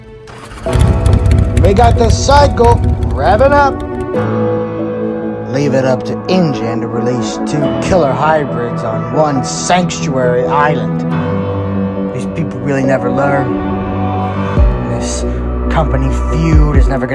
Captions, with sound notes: (motorcycle starting up) We got the cycle, revving up! Leave it up to Ingen to release two killer hybrids on one sanctuary island. These people really never learn, this company feud is never gonna end.